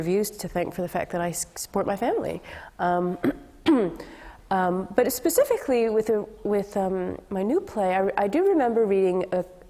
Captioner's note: clears throat